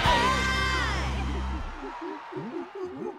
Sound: monkeys hooting

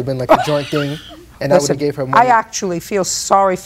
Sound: laughs

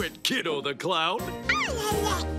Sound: babbles

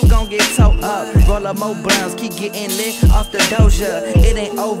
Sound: woo

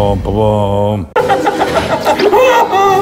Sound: laughing

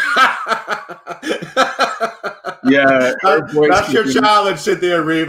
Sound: laughing

